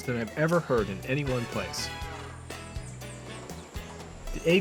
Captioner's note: bird songs